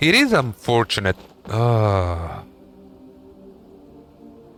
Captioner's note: groan